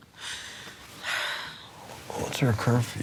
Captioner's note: sighs